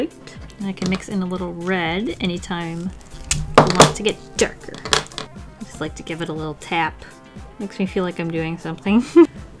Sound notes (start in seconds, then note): 4.3 tap, tap; 9.0 laughs